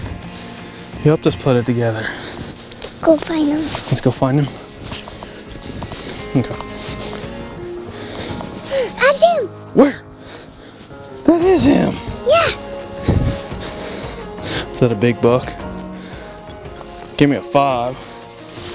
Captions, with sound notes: You helped us put it together. Go find him. Let's go find him? [Sound of walking, soft music] I see him! Where? That is him. Yeah! Is that a big buck? Give me a five.